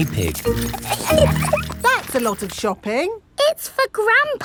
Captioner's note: laughing